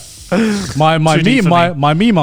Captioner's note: chuckles